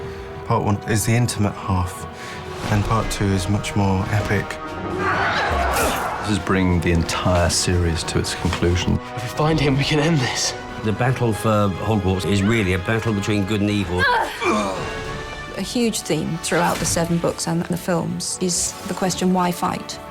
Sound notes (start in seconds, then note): 14.0 grunting